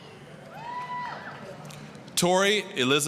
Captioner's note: applause, cheering